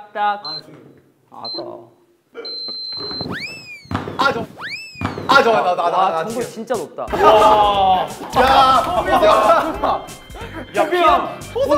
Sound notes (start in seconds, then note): 3.2 hurrah; 7.1 hurrah